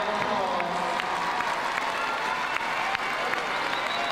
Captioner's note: crowd cheering